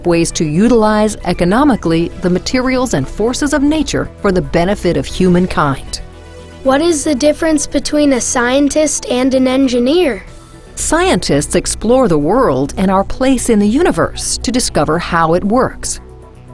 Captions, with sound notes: to utilize, economically, the materials and forces of nature for the benefit of human kind. - [Voiceover] What is the difference between a scientist and an engineer? - [Voiceover] Scientists explore the world and our place in the universe to discover how it works.